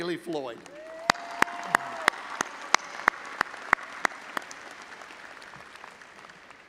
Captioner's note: all applauding and audience cheering